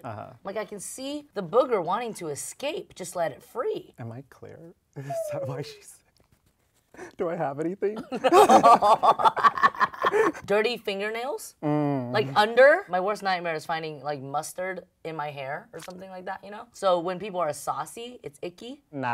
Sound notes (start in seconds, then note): 7.9 laughing; 8.2 Sherry laughing